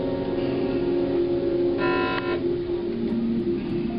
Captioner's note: buzzing